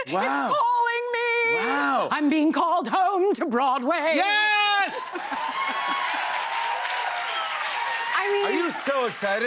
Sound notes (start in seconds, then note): 4.5 cheers and applause